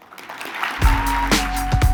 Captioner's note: applause